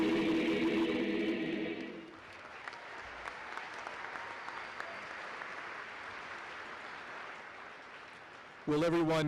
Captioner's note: applause